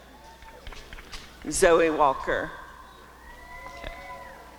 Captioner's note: applause and cheering; applause and cheering